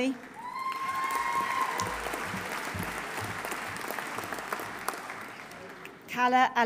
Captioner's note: audience applauding; audience cheering